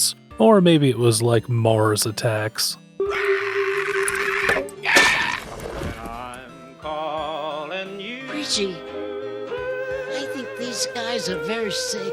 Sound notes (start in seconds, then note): 4.8 scream